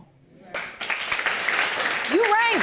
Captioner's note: audience applauding